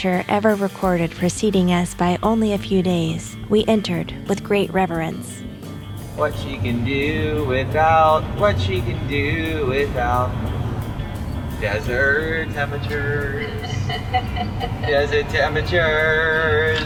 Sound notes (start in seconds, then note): 13.3 chuckling